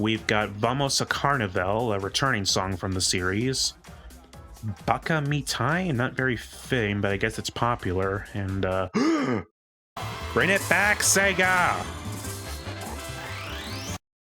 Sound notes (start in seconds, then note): 8.9 gasp